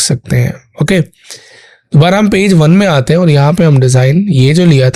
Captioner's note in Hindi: गला साफ़ करने की आवाज़